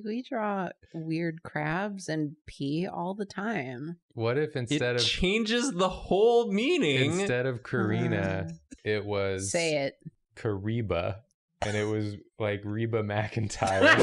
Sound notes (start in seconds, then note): 8.9 weary sigh; 13.7 fake Reba McEntire laughs